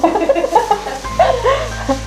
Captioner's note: chuckles